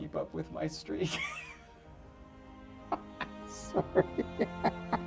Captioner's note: David laughs